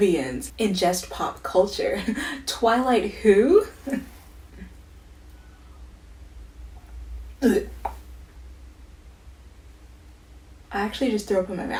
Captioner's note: gags